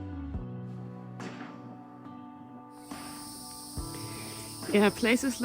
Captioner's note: pensive music; insects humming